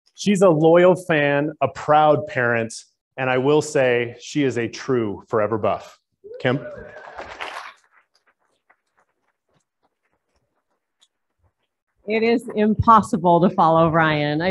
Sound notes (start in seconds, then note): 6.7 applauding